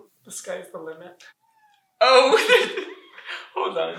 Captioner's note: cat meows